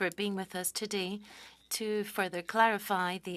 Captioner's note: speaking French